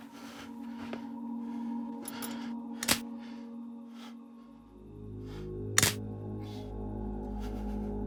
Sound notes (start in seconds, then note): 2.8 electrical clicking